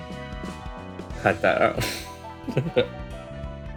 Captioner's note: chuckles